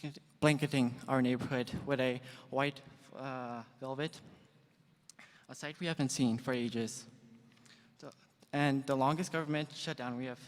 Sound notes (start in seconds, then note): none